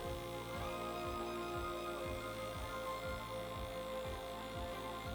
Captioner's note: airbrush whirring